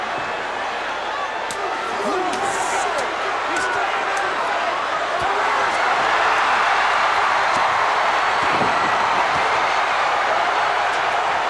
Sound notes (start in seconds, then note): 4.0 crowd's roar drowns out commentary